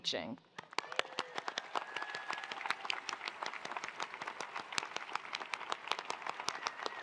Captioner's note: attendees applauding; attendees cheering